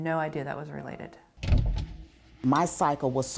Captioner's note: cupboard door thumps